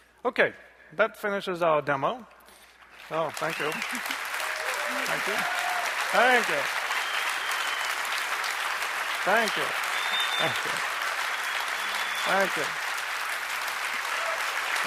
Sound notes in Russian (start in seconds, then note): 3.0 возгласы и аплодисменты